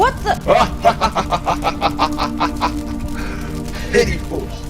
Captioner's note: Astaroth laughs